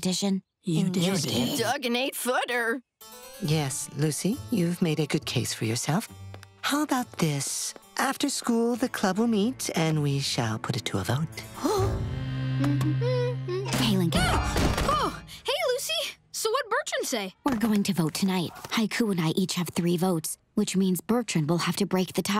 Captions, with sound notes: - You did. - You dug an eight-footer. Yes, Lucy, you've made a good case for yourself. How about this? After school, the club will meet and we shall put it to a vote. [gasping] [humming] - Hey, Lincoln. - Ah! Oh. Hey, Lucy. So Bertrand say? We're going to vote tonight. Haiku and I each have three votes. Which means Bertrand will have to break the tie.